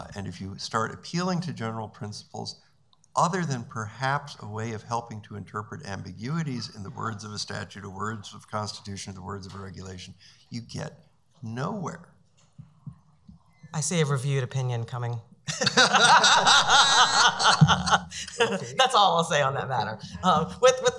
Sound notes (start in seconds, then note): 15.5 laughing